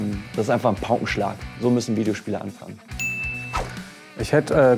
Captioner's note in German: Klingeln